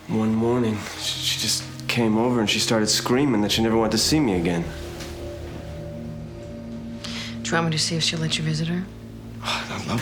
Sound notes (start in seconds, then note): none